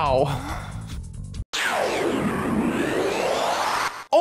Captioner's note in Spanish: siren